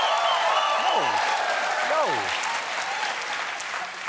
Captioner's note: cheers and applause